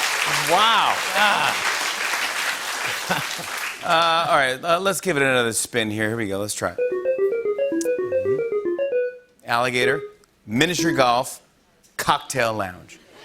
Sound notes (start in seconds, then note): 0.0 laughter and applause; 0.0 applause; 6.8 beeping